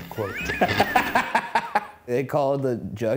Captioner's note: laughing